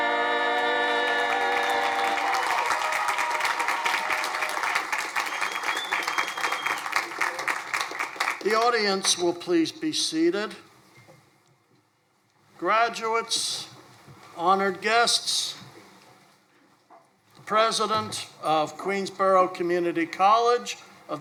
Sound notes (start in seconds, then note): 2.9 crowd applauding